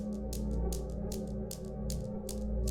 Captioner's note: balls bouncing